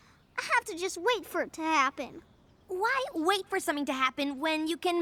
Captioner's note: none